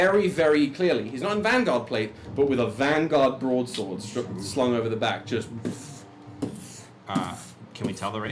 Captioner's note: heavy footfalls